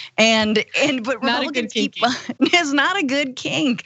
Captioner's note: laugh